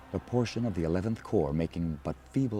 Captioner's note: voiceover